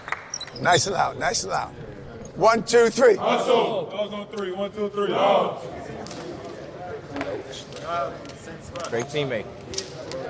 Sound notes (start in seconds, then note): 0.0 team applauding and chattering; 6.3 team chattering